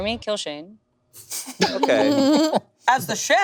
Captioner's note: group laughing